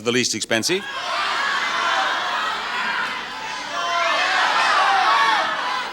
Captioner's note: audience yells suggestions